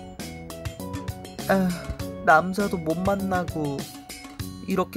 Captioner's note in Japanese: 溜息